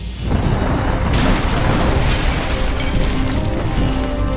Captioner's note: explosion booms